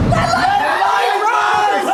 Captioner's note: everyone screaming